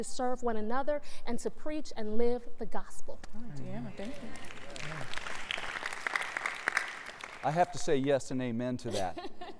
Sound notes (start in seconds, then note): 4.0 applause